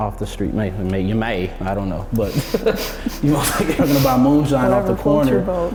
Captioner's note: laughing